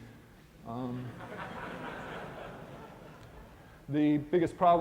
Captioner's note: laughter